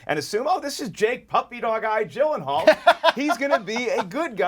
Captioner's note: laughs